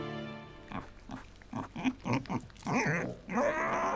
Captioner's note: oinking